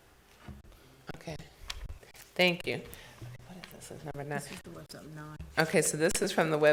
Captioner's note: board chatting quietly